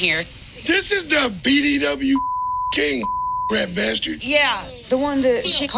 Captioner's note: beep